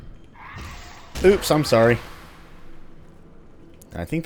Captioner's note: whack